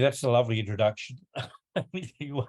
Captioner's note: laughs